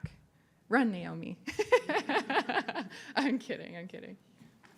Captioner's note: laughs